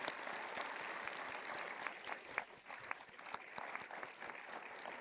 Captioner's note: everyone applauding